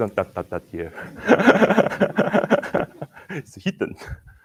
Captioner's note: laughs